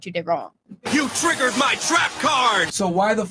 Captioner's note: sound effect from YuGiOh: "You triggered my trap card!"